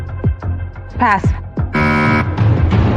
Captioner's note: buzzer sounds